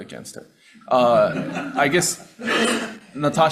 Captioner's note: audience laughing